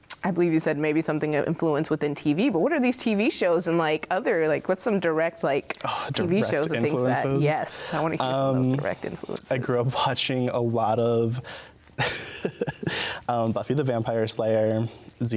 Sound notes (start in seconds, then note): 12.0 laughs